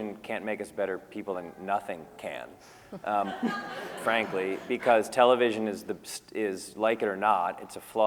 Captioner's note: laughter